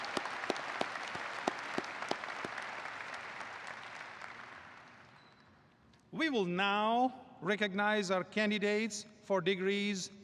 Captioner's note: applause